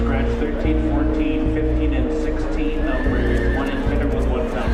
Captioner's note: horse neighing